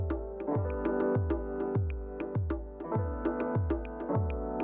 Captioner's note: mouse clicks